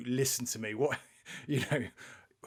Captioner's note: chuckles